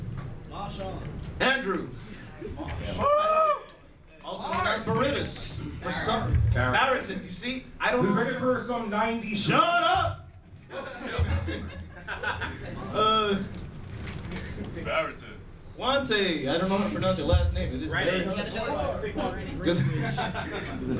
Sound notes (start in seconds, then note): 10.7 laughing; 18.2 crowd talking